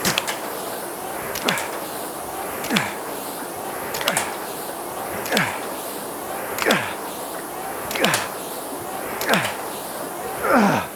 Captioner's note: grunting